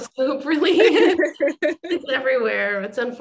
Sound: laughter

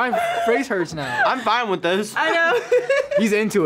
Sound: laughs

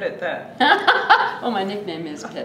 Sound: laughs

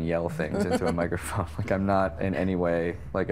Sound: chuckling

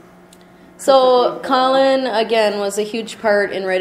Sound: voiceover

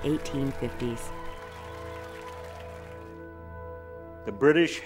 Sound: crowd cheering

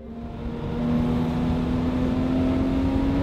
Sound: car racing

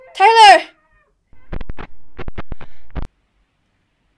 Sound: screams

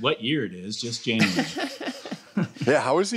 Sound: laughter

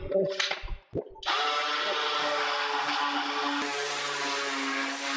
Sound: sander buzzing

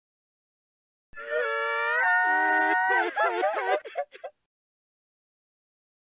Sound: laugh

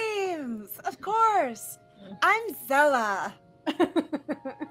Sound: laughter

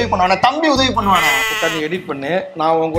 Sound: bleat

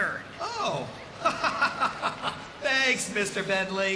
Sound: chuckling

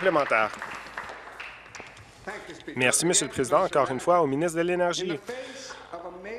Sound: applause

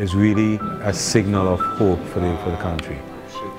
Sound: none

